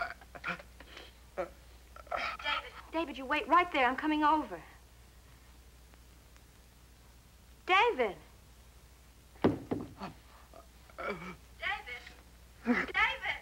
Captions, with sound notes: David. David, you wait right there. I'm coming over. David. [thud] David? David?